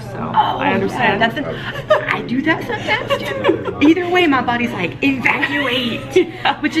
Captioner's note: laughing